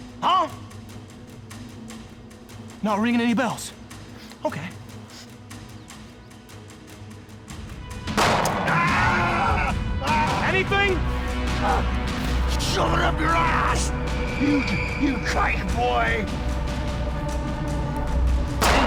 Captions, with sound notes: Huh? Not ringing any bells? OK. [gunshot] [screaming] Anything? Shove it up your ass, you Kike boy. [gunshot]